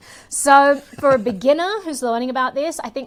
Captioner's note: laughs